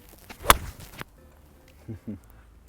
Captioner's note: golf club swooshing